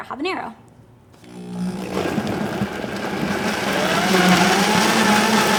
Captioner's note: blender whirring